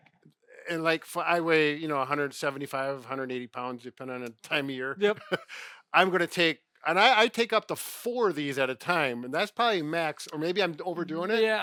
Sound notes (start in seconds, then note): 5.1 laughing